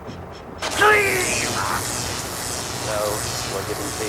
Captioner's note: electricity crackling; groaning